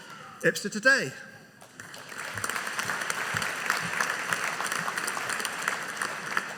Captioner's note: audience applauding